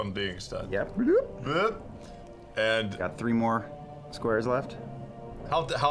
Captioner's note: bloop